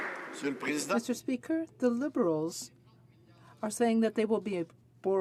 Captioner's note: some Applause